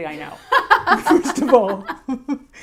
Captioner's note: laughs